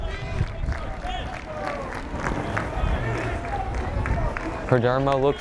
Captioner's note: fans clapping rhythmically